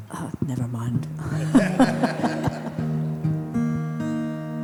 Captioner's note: everyone laughs